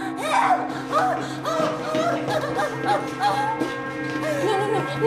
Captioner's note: sobbing